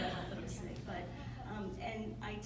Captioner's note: laughter